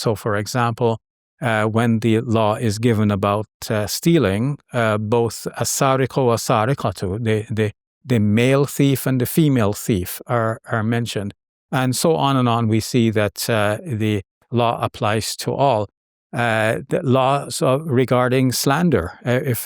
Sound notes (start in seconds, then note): 5.4 speaking Arabic